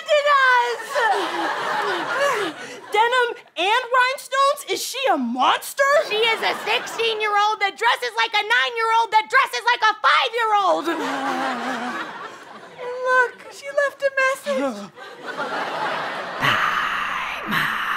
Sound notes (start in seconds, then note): 8.1 audience laughing; 13.3 breathy JoJo Siwa whispering